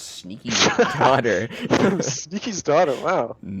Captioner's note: laughs